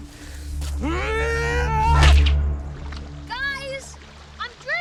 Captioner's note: Eddie yelling